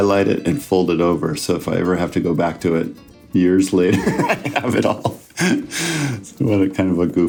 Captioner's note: laughs